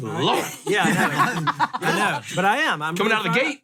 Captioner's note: all laugh